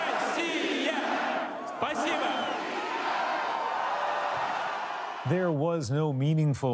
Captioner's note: chanting in russian; applause